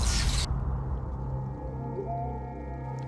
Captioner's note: buzzing and crackling